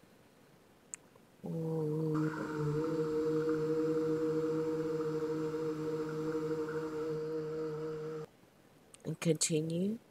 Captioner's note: soft sounds of 'u'